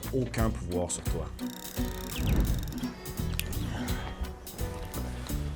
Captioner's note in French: bruits d'un moulinet de pêche, d'un claquement de doigts